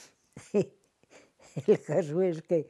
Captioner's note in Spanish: ríe